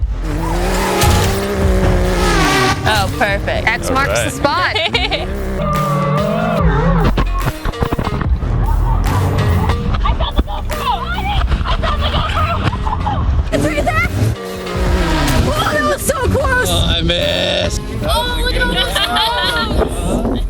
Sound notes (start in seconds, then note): 0.3 drone whirring; 5.0 laughs; 7.2 loud rustling; 14.6 engine rumbles